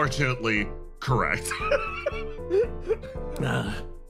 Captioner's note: laugh